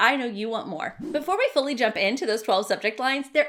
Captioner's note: swishing